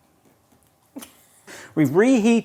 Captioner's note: laughing